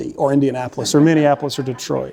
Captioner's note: laughter